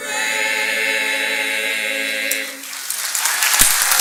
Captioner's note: applause